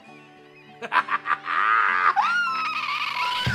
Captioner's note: laughing